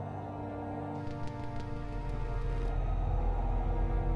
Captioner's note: wind whistling; static buzzing